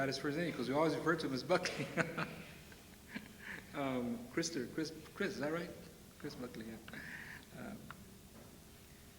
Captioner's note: chuckles